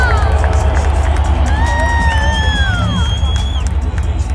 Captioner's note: cheering crowds